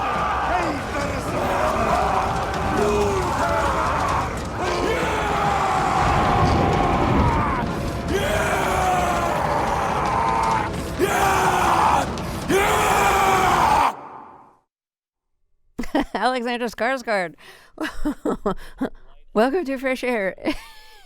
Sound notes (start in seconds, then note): 11.0 as characters, shouting, howling; 17.3 As Amleth, howling; 20.4 laughter